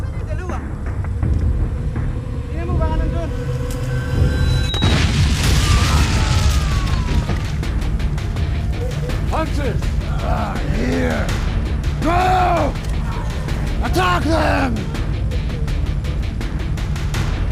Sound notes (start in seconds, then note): 0.2 speaking foreign language; 2.6 suspenseful music; 4.1 booming; 5.4 men screaming